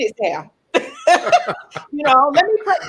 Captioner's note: laughing